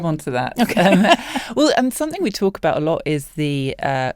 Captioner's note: laughs